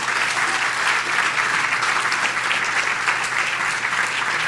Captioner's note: audience applauds